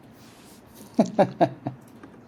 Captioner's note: laughing